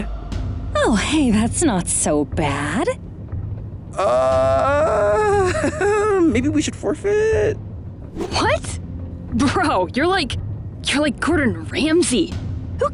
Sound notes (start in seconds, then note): 3.9 awkward chuckle